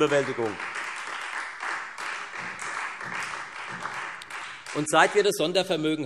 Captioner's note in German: Beifall